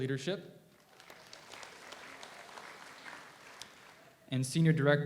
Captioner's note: audience applauds